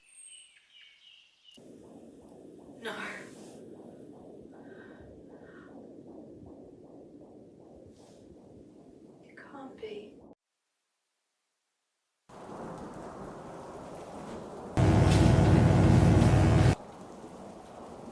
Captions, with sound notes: (birds chirping) (heart beating) No. You can't be. (electric buzzing)